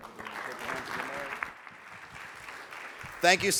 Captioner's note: audience clapping